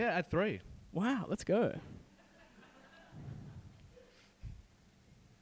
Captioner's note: group laughing